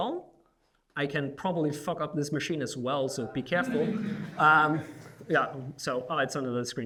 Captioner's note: laughing